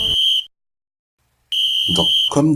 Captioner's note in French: Coup de sifflet final